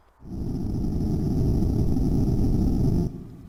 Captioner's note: friction sound